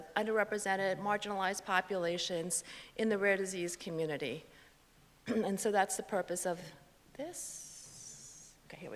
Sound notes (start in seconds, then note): 5.3 clears throat